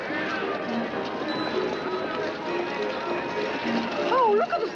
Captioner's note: people chattering; cheerful music